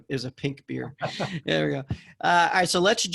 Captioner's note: laughs